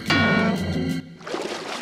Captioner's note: shovel thuds